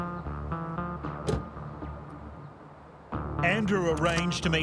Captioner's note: car door banging